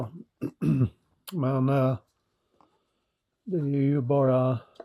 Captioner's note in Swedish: harklar sig